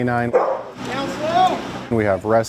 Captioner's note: dog barks